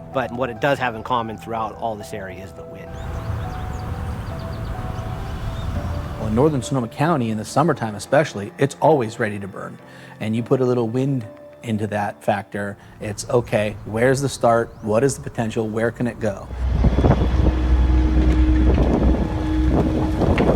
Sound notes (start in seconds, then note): 2.9 wind howling; 17.1 fire flames crackling